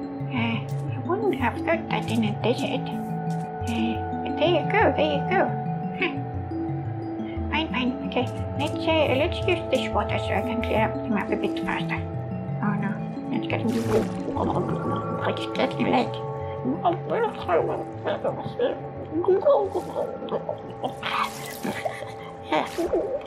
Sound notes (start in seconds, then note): 13.6 underwater bubbling sounds; 17.7 frustrated underwater bubbling sounds; 20.9 spitting noises; 22.7 more underwater bubbling sounds